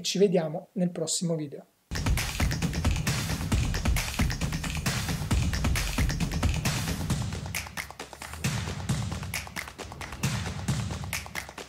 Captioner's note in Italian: Applauso